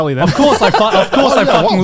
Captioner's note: laughs